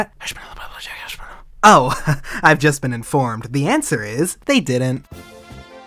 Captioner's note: whispering